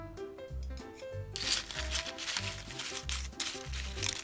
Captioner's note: a crisp sound